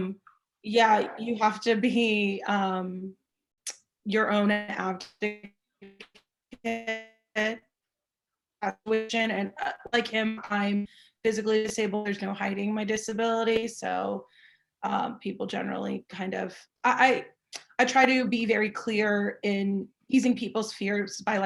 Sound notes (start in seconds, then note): 5.8 audio stuttering